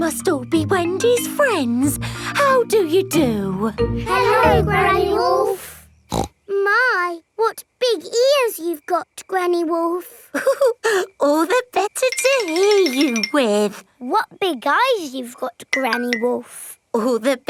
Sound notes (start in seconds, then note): 6.1 snorts; 10.3 chuckles